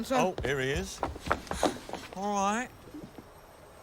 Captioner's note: pants